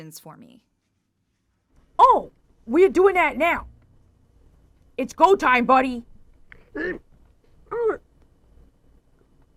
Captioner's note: goes EEEMGH and EUUURGH!